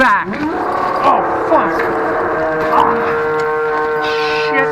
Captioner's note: animal roars